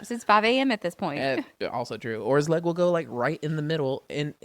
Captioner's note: laughs